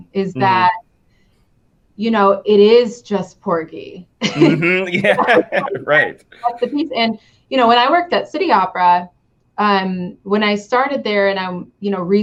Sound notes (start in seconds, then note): 4.2 both laughing